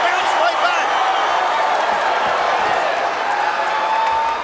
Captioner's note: crowd cheering